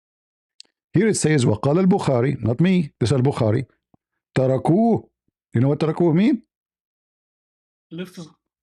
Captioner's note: Arabic